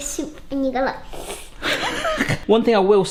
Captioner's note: slurping; laughing